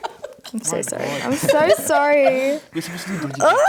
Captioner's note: laughter